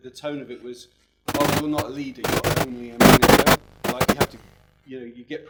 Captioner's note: loud audio distortion